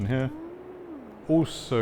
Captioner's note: wind howls